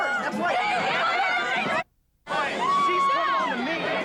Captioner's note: screaming